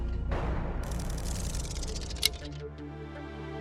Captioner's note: clock ticking